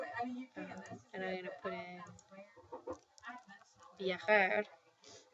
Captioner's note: spanish